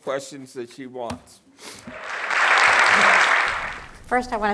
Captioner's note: applause